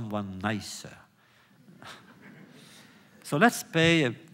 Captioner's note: laughter